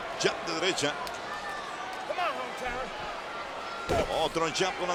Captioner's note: applause